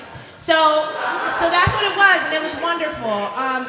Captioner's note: laughter